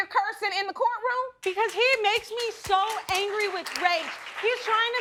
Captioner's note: audience applauding